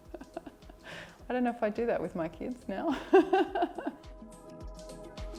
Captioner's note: chuckles; laughs